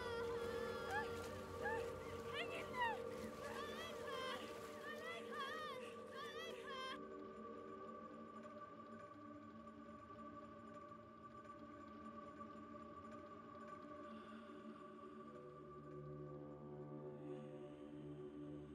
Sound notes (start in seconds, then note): 2.1 crying; 10.5 ominous music